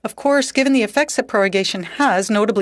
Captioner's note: speaking French